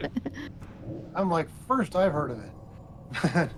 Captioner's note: laughs